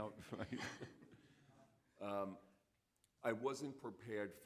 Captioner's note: audience laughing